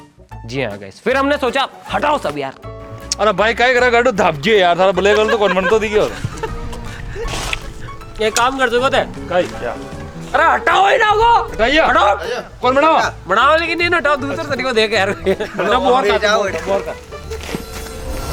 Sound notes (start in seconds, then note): 2.9 local language